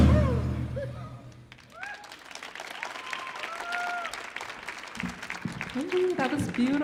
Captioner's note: audience cheers and applauds